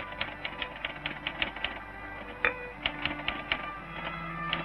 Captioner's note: typewriter clacking